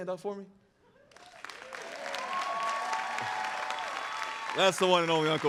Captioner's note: audience applauding